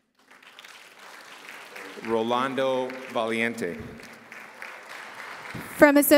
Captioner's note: applause